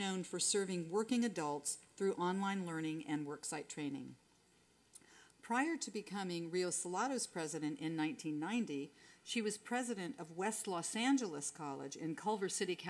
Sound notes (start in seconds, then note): none